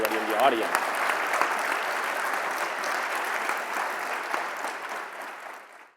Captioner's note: attendees and panelists applauding